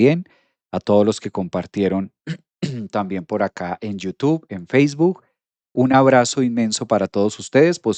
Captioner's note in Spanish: carraspeo